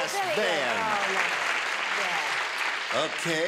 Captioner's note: applause